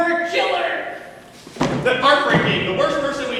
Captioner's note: loud thud